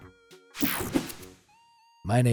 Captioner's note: upbeat music; air whooshing